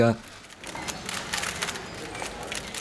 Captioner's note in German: Klicken der Fotoapparate